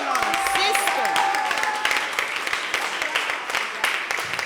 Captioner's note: applause